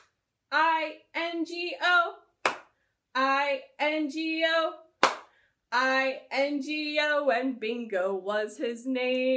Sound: clap

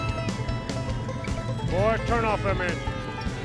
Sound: engines idling

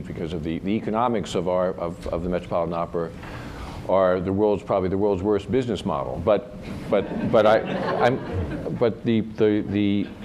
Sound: laughter

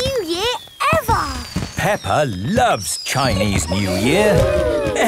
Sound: exclamations

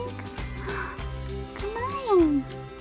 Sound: gasp

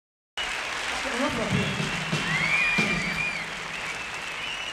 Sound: crowd cheering

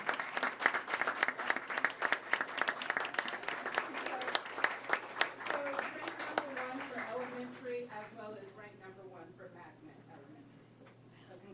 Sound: applause

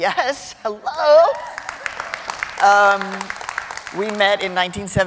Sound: cheering and applause

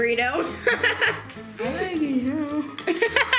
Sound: laughs

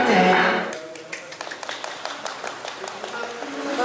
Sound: applause

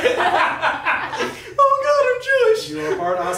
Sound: laughing

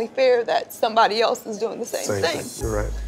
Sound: voice breaks

